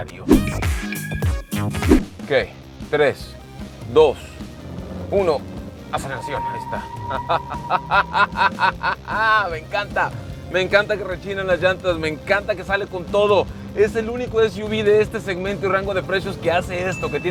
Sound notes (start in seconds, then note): 7.0 laughter